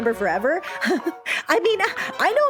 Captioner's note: chuckle